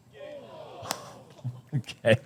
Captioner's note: laughs